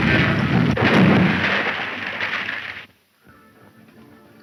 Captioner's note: large wet bang